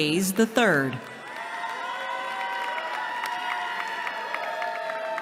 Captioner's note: cheering